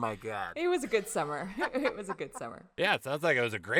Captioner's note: laughing; chuckling